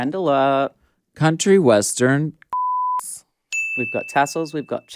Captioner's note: beep